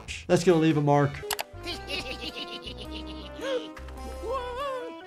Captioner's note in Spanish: Ambos se ríen